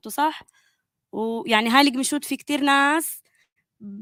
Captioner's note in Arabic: لغة أجنبية